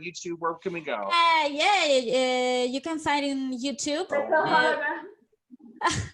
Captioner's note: background conversations